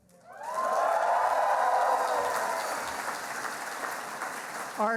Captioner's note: cheering and applauding